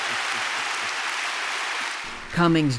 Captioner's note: cheering and applause